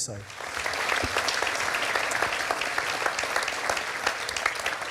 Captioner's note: audience applauding